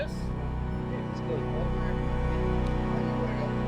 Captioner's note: faintly speaking; chiming music